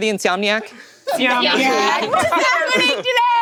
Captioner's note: all laughing